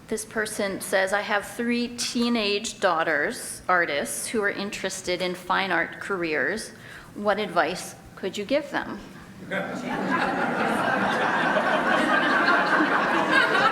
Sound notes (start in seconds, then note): 9.5 group laughter